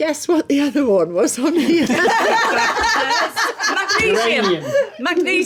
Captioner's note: laughing